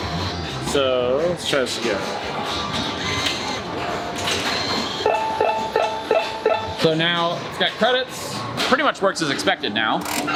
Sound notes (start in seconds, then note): 3.0 buzzing; 4.5 beeping